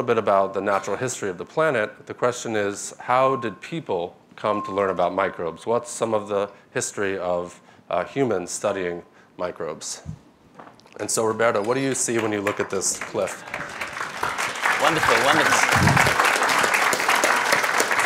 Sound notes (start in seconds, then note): 14.3 applause